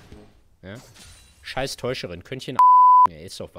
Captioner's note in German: piep